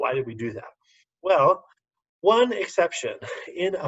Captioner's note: laughter